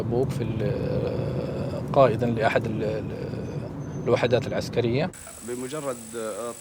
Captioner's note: speaking in Arabic